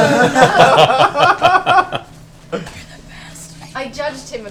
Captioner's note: laughter